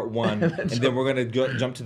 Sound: laughs

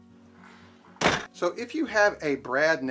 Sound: door slams

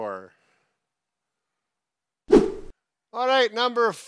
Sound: whooshing sounds

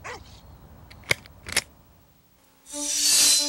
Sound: sound of buckle clicking

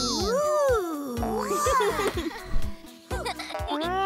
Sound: chittering

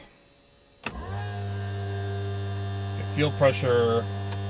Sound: electric motor noise

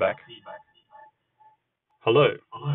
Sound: feedback echoes

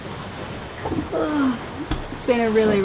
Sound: yawns

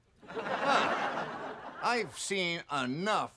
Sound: audience laughing

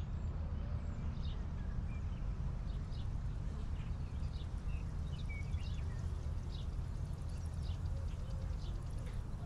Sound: bright Sounding Birds in the Background

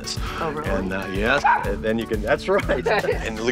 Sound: dog barks

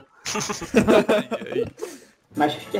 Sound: laughing

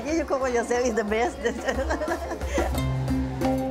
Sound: laughs

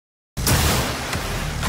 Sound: crash

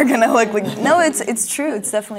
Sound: laughing

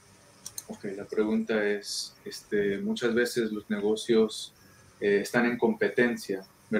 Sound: speaking in foreign language

